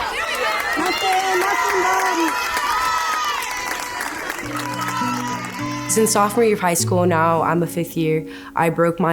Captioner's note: cheering